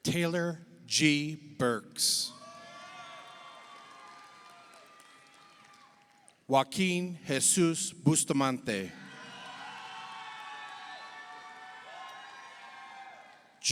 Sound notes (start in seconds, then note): 2.3 audience cheers; 2.7 audience applauds; 8.8 audience cheers; 9.0 audience applauds